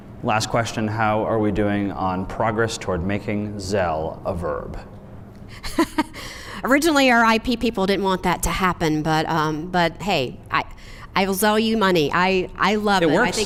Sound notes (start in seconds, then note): 5.6 laughs